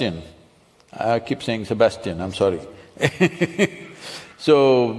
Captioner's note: laughs